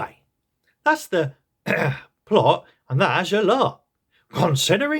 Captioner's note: ahem